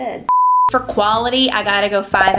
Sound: beep

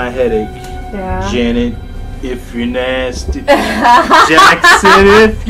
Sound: Janet laughs

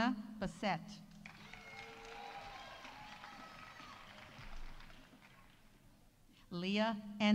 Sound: audience applauding; audience cheering

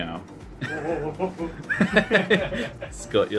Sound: laughter

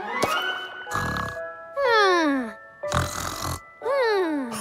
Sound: snoring

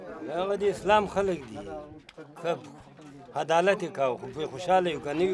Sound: speaks in foreign language

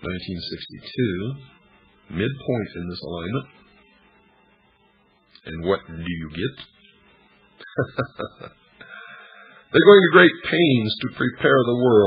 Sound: laughter

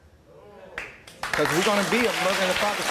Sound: audience applause

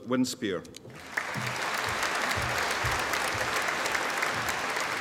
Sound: audience applauding

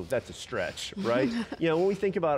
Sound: laughs

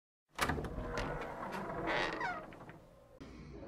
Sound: door opening

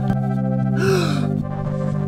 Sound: gasp

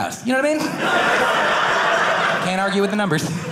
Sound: audience laughing

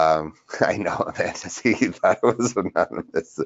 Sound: laughs

